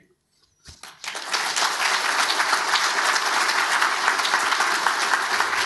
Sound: audience applauds

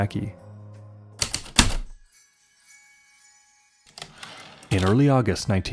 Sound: typewriter keystrokes, light chimes, typewriter return slide

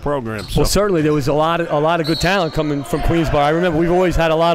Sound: whistle

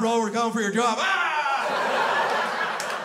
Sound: shouts; crowd laughs

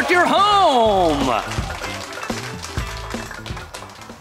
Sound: applause

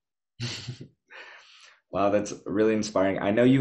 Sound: chuckles

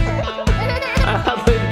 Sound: laughter

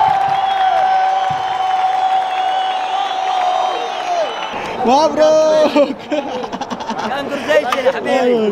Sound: clap

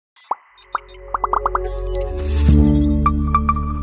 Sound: electronic beeping

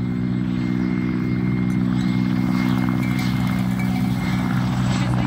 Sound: sheep scattering

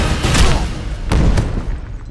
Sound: heavy moans in pain

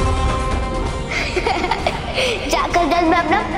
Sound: giggles

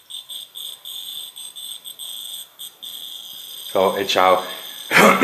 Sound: popping sound fades

